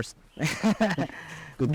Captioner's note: chuckles